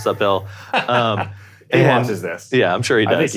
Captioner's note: laughs